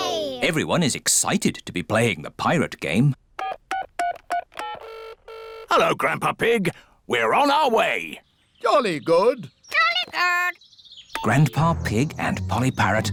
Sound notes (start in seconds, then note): 2.8 dialing phone; 2.8 line ringing